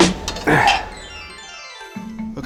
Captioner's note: mounting plate chiming